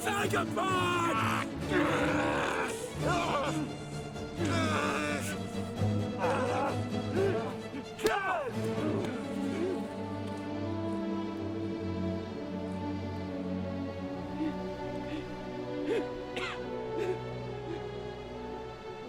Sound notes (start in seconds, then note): 1.7 dramatic music; 4.4 groaning